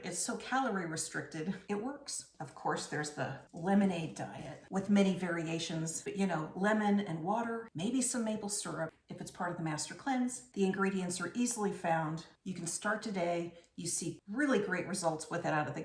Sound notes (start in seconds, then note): none